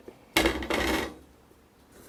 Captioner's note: tool sounds